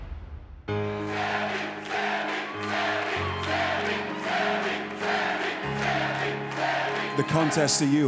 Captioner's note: fans chanting